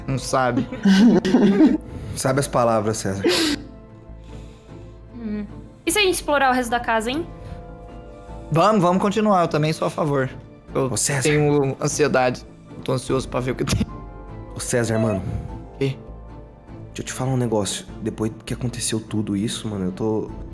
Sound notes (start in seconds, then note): 14.4 whispering